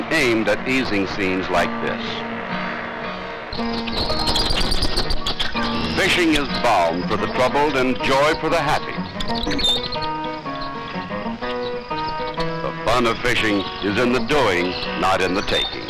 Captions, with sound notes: aimed at easing scenes like this. (Animal sounds) >> Fishing is balm for the troubled and joy for the happy. The fun of fishing is in the doing, not in the taking.